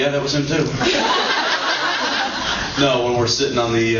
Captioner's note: laughs